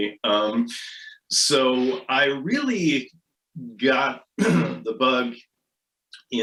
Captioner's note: clears throat